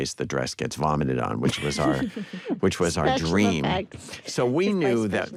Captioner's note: laughs